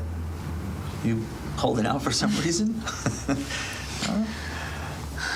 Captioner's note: chuckles